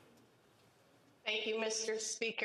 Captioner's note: speaking French